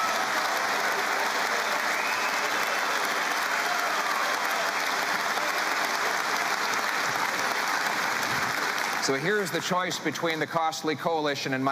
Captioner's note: cheering and Applause